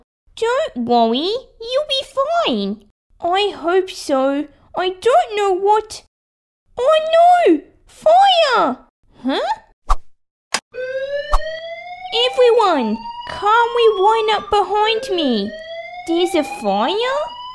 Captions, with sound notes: Don't worry You'll be fine I hope so I don’t know what... Oh no! Fire! Huh? (Click!) (Fire Alarm) Everyone, calmly line up behind me There's a fire?